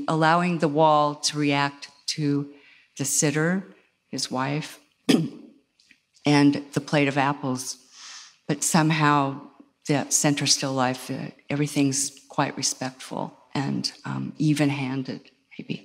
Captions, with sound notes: allowing the wall to react to the sitter, his wife, (clears throat) and the plate of apples. But somehow that center's still life, everything's quite respectful and even handed maybe.